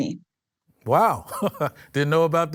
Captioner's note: chuckles